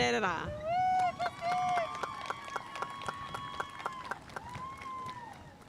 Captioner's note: audience cheering and applauding